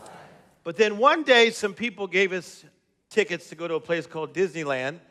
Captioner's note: none